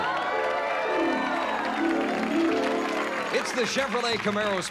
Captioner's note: applause